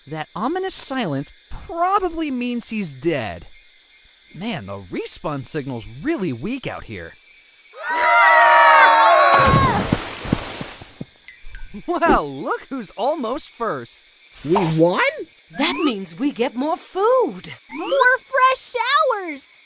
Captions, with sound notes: That ominous silence proooobably means he's dead. Man the respawn signal's really weak out here (Distant screaming) Well look who's almost first. We won?! That means we get more food! More fresh showers!